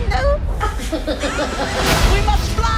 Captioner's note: laughing